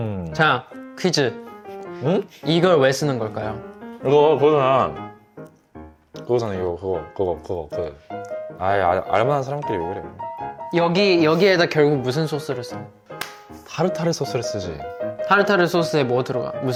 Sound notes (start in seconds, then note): 13.1 clap